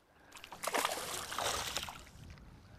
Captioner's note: splash